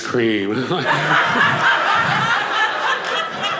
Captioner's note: audience laughing